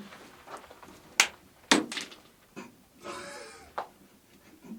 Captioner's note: rock clanks; people laughing